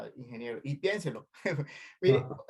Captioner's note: laugh